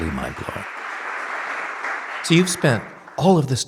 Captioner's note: audience applauding